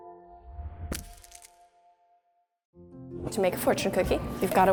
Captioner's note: shattering